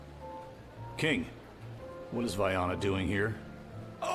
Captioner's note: none